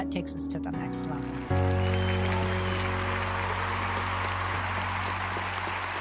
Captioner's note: attendees applauding